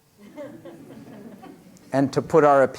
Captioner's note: laughter